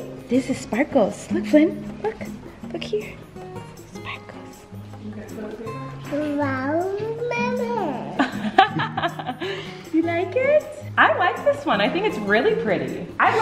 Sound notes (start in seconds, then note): 6.1 baby babbles; 8.0 laughing